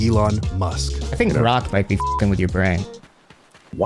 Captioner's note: beep